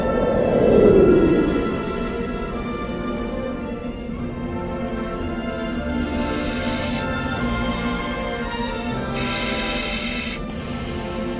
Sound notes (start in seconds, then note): 0.0 satellite humming; 4.2 dramatic music continues; 6.1 air hissing